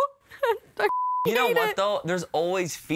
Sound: beep

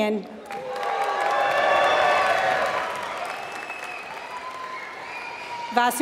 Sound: applause

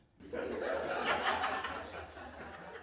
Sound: laughter

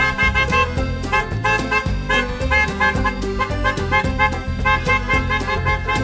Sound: car horns honk; upbeat music

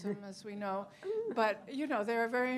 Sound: laughter

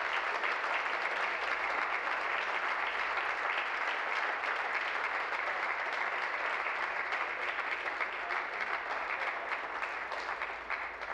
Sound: applause

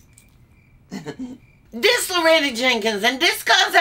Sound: chuckles

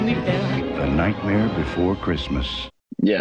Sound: voice-over

